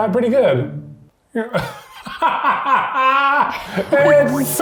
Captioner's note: laughing